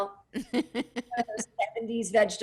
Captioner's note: laughing